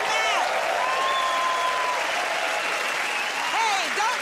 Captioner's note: cheers and applause